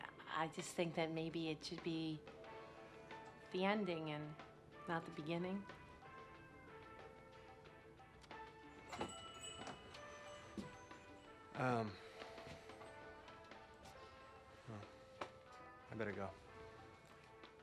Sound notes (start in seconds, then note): 8.6 door chimes